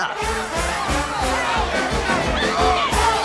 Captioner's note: clamoring